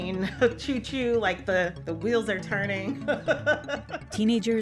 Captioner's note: laughter